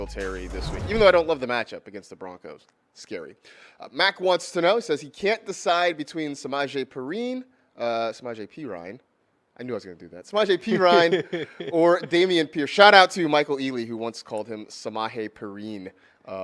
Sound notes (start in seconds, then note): 10.7 laughs